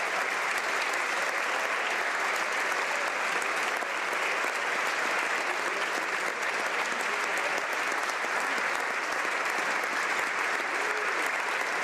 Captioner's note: applause